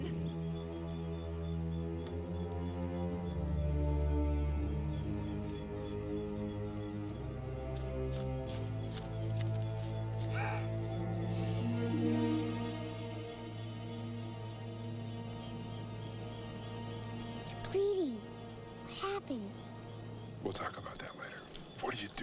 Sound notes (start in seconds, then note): 0.1 crickets chirping; 0.1 deep ominous music; 10.1 Eli shushes; 10.4 Amy gasps; 12.5 ominous music fades